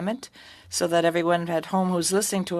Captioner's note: speaking French